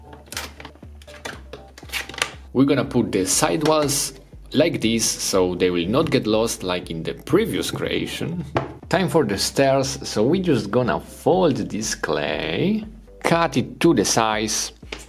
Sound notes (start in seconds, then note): 0.7 scraping